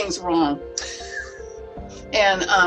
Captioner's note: laughs